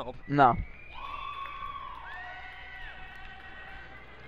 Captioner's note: crowd cheers